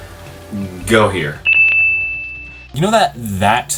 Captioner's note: fuNyY dING SounD